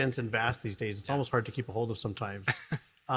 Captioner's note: laughs